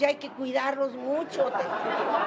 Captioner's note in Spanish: risas